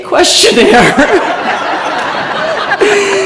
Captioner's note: laughter